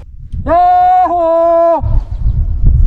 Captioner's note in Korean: 야~ 호~